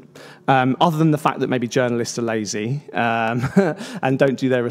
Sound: laughs

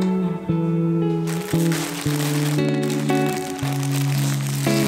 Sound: wrapper crinkling

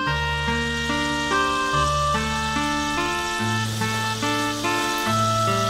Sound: food sizzling; somber reed music

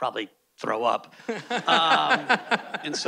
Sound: host laughing

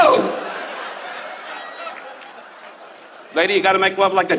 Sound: audience laughs

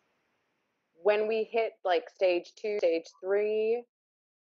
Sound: none

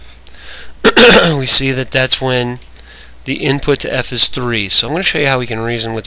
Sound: coughs

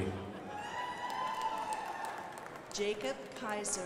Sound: crowd applauding

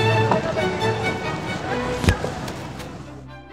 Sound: car door opened

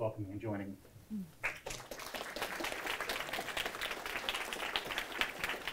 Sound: applause

